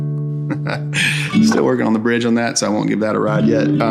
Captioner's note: laughs